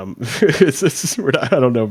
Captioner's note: laughs